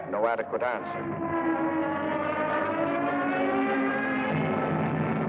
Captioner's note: planes droning